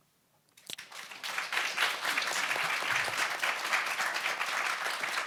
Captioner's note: audience applauds